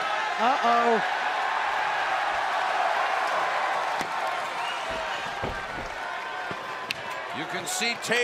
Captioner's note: crowd cheering